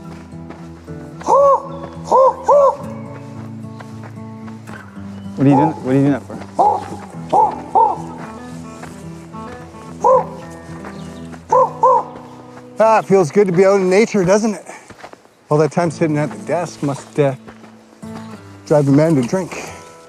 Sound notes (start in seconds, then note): 1.2 calling continues; 7.0 Rick imitates bird calling